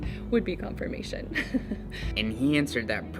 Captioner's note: chuckles